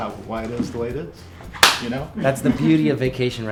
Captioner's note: hands clap